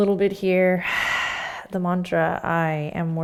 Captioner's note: exhaling